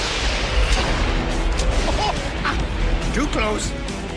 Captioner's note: thunder cracks